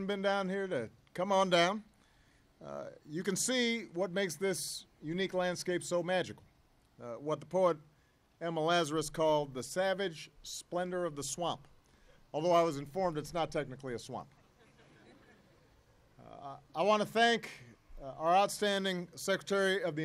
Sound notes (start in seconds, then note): 14.4 laughter